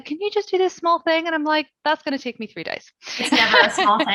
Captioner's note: laughing